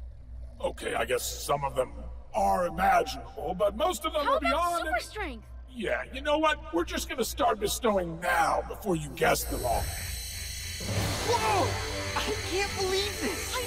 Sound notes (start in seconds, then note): 9.2 whirring